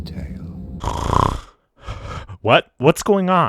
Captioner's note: snoring